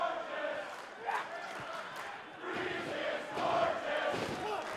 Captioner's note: fans chanting